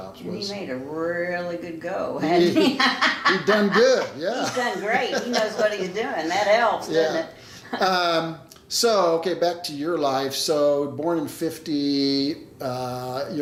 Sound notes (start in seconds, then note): 2.4 laughing